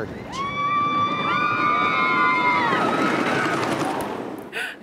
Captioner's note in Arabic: الناس يصرخون